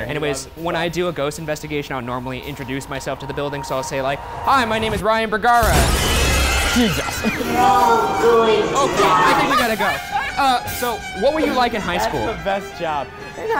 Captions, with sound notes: - Anyways, when I do a ghost investigation, I'll normally introduce myself to the building. So I'll say like, "Hi, my name is Ryan Bergara." (screaming) Jesus! Okay, I think we gotta go. (laughing) So what were you like in high school? - That's the best job!